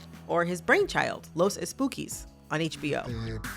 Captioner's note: soundbite of tv show, "los espookys"; speaking Spanish